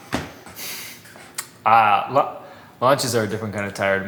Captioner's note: exhales sharply